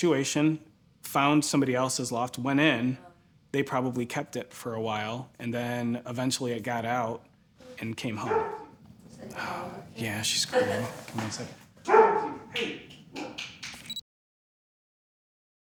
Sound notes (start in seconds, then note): 8.6 dog barks; 13.8 electronic beep